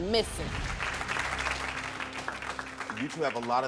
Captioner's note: audience clapping